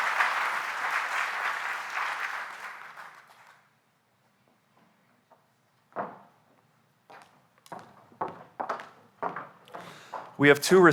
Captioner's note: applause